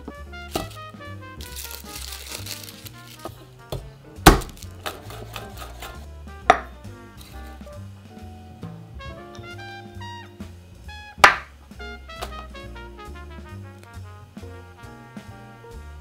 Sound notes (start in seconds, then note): 1.4 garlic paper rustling; 4.2 knife smashing